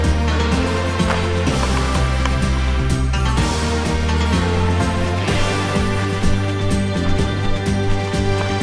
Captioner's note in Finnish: Aplodeja